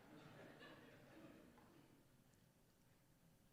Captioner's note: laughter